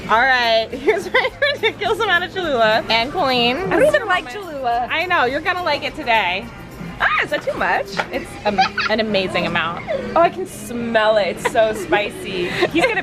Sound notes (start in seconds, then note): 8.2 laughing